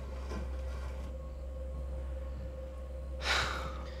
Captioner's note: tense music; crickets chirping; Ben sighs